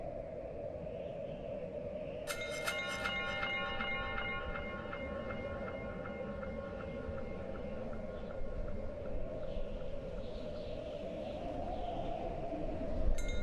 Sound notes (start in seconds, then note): 2.3 chimes clinging